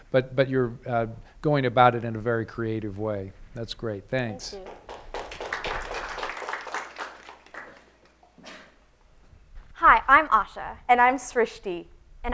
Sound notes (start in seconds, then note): 4.4 applause